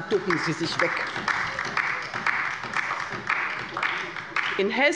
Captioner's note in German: Beifall bei der LINKEN